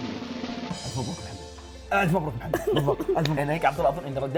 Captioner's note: laughs